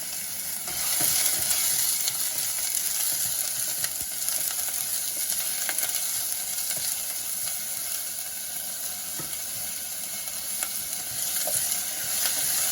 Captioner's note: cooking sound